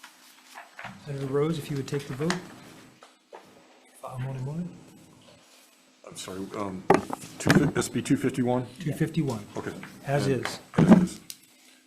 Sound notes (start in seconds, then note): 0.0 paper rustling; 4.1 faintly speaking